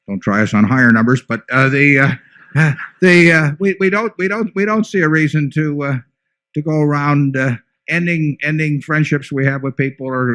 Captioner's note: laughter